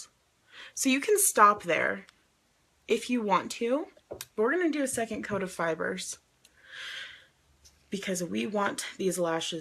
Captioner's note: inhales